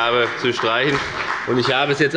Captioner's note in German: Beifall bei der FDP